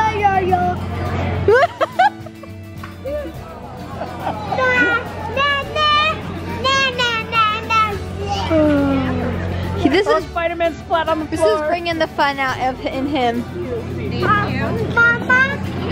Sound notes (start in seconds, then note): 1.9 laughing